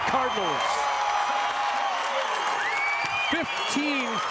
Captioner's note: crowd cheers